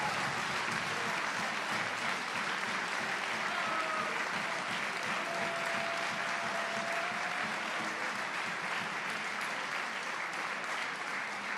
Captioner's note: applause